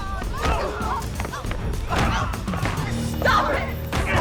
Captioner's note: groaning